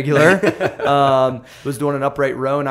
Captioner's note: laughter